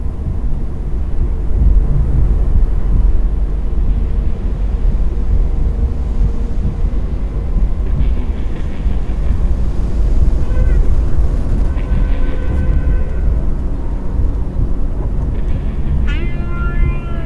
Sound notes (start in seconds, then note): 6.0 wind blowing; 11.7 eerie music